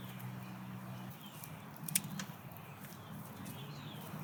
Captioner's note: scissors snipping